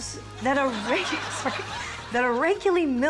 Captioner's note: laughs